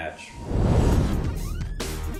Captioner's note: fire roaring; intense electronic music